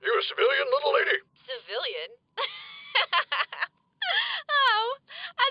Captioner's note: laughs